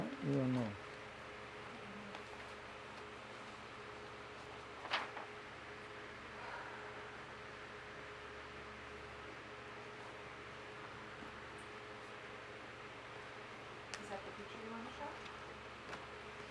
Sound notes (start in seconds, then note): 6.4 sighing